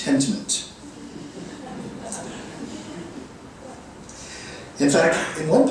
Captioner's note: audience laughing